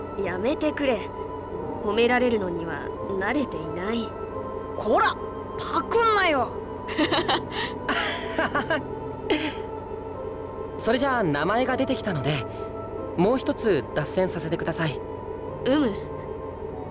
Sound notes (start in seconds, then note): 6.8 laugh; 7.9 sheepish laugh